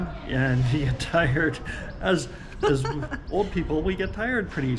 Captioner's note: laughs